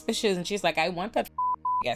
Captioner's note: beep